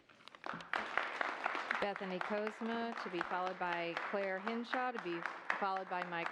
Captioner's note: applause